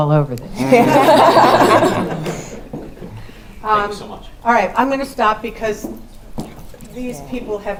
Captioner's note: laugh